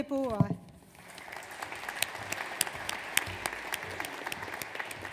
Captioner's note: audience applauds